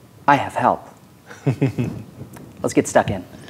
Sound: chuckling

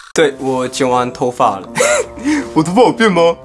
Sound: giggles

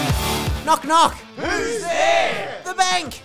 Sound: promo music; crowd response

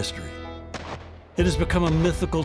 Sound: guns firing

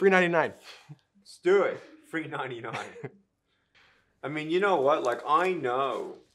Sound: laughing

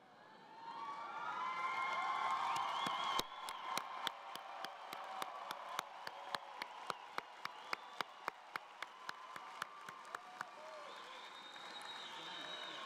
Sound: cheering and Applause

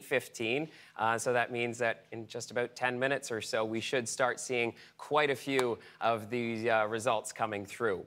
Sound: none

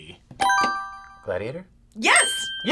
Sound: buzzer rings

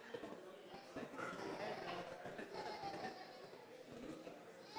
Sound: audience members chattering

